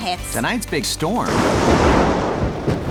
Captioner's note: thunder clap